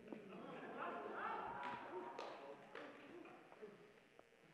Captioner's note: audience laughs